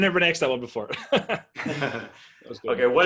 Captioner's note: laughing